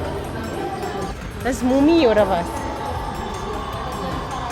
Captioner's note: speaking German